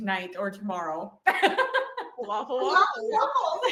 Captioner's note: laughs